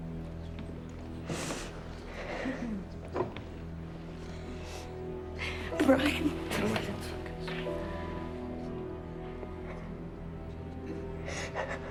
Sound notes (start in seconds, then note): 1.2 sniffs; 10.7 sobs